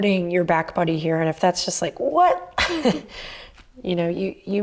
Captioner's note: laughs